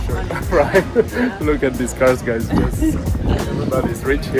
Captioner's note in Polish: śmiech